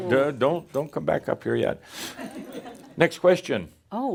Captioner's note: a few chuckles